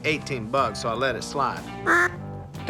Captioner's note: duck call